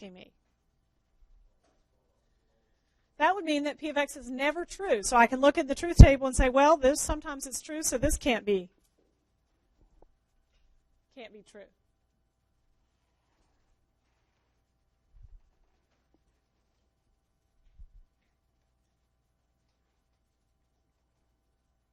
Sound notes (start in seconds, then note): 8.1 long pause